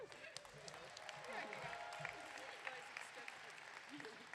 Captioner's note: audience clapping